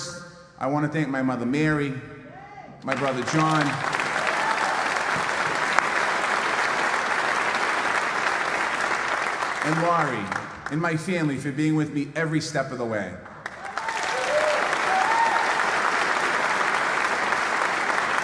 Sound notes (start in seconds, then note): 8.6 applause; 17.9 applause